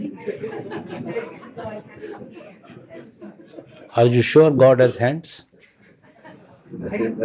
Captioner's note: laughter